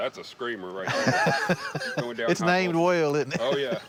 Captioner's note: laughs